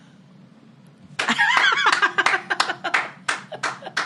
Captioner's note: laughter